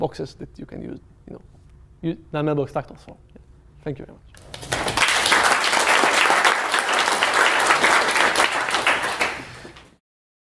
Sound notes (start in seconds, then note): 4.3 applause